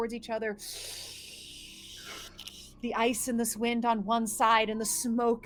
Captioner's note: sucks in air